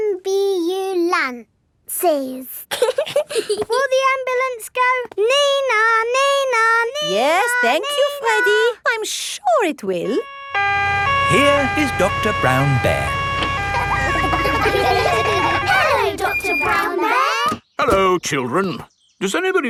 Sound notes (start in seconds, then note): 2.7 both giggling; 11.1 siren wailing; 14.1 kids laughing